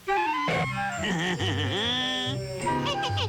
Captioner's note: evil laugh